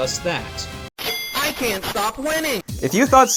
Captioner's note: ka-ching!